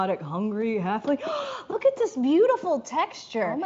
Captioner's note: gasp